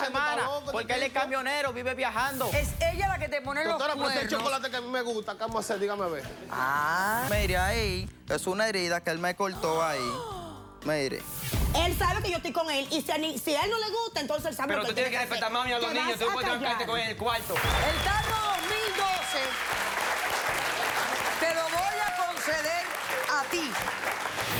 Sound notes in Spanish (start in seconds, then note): 11.2 Exclamaciones; 21.9 Aplausos